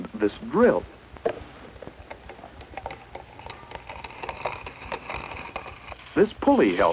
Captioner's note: drilling noises